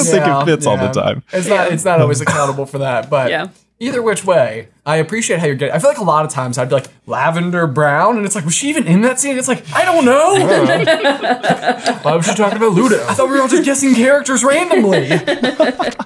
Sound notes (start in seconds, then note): 2.0 coughing; 10.3 everyone chuckling; 14.7 chuckling; 15.8 paper crinkling